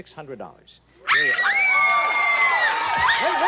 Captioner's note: screams